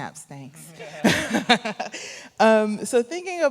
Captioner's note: chuckles